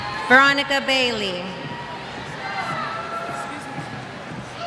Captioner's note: cheers